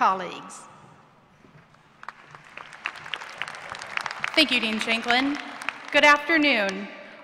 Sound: applause

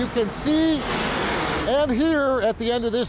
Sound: plane rumbling

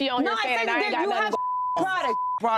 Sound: beep

